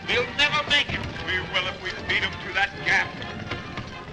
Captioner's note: crash